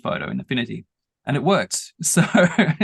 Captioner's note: laughing